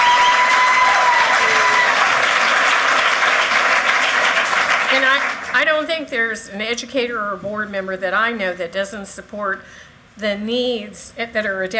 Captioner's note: cheers and applause